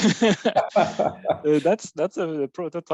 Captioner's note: laughs